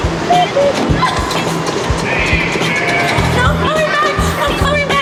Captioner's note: cuckoo coos